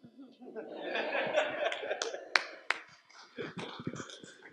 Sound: audience laughs

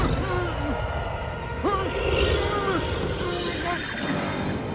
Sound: panicky noises

